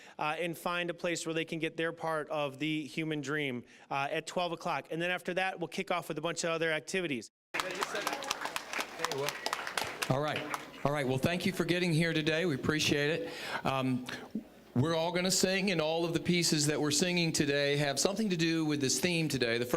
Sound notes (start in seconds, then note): 7.5 applause